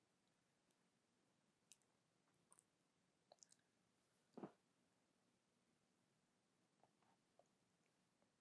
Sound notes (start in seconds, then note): 1.9 pauses 8 seconds